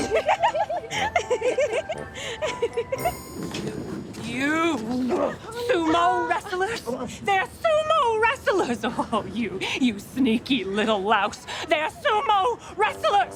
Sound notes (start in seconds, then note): 0.0 girls giggling